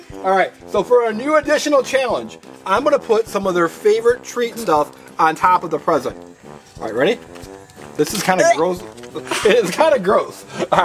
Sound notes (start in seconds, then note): 9.2 assistant gags